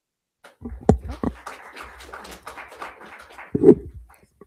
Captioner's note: crowd applauding